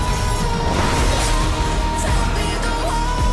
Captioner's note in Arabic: شفرات خشخشة